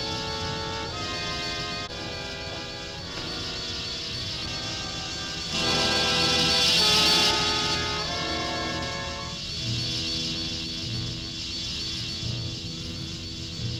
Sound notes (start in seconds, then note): 5.5 menacing orchestral music; 5.5 wasps buzzing